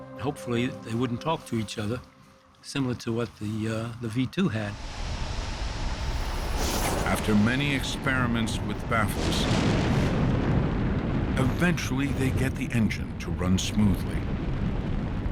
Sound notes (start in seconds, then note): 9.5 explosion